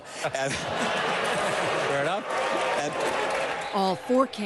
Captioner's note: laughter